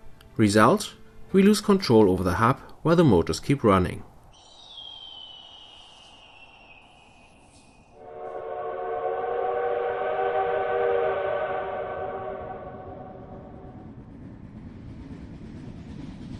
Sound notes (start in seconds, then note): 4.2 wind, eagle cries; 7.9 old train whistle; 11.9 steam locomotive approaching